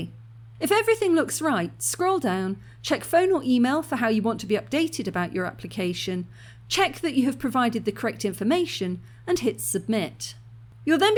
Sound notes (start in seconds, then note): none